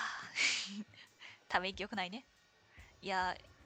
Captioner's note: laughs